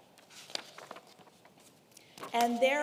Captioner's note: paper rustling